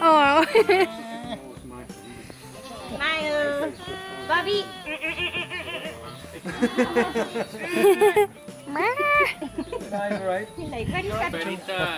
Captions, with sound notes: Awe! Smile! Bobby! [Laughter]